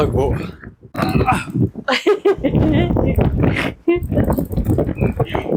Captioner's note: laughter